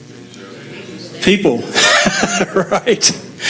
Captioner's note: laughs